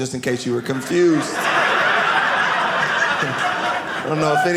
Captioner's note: audience laughing